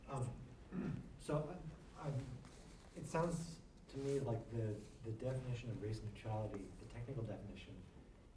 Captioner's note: clears throat